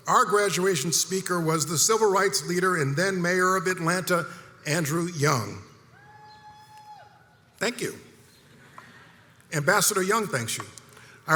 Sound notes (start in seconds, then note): 6.2 audience member cheers loudly; 8.8 audience chuckles